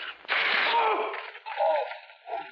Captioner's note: iron sizzling